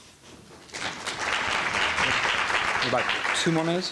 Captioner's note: audience applauding